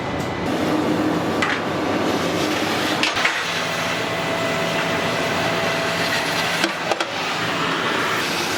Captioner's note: gas cutting